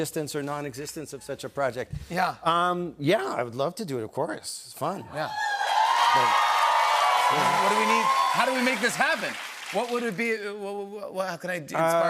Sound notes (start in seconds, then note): 5.3 cheers and applause